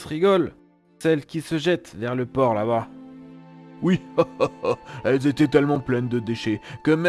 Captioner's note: laughs